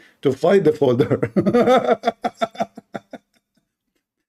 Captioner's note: Ketawa